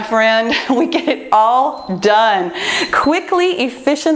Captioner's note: timer beeps